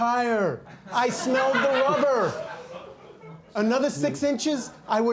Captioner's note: audience laughing